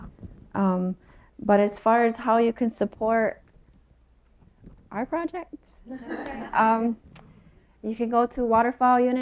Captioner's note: laughter